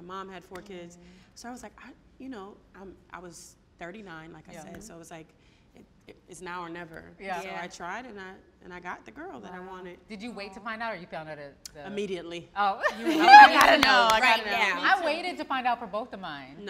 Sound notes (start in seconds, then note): 12.8 all laughing